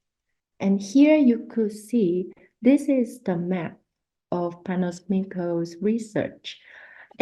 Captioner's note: spanish; spanish